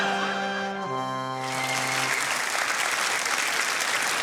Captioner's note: applause